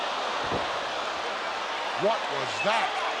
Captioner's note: crowd boos